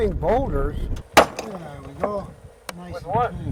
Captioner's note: boulder shattering; sledge hammer crashing